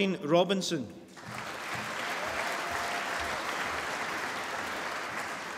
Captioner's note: applause